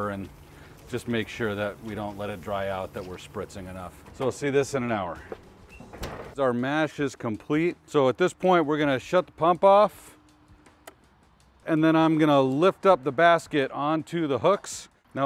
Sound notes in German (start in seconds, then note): 5.8 Deckel schlägt auf